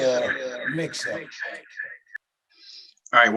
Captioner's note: echoing